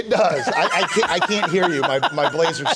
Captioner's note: laughs loudly